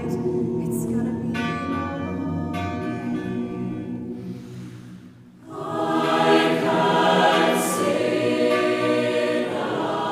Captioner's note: bell tolls